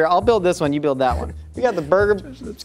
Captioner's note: laughs